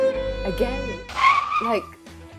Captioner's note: upbeat music; brakes screeching